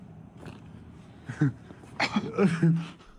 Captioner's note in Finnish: naurahduksia